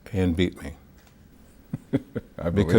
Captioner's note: laughing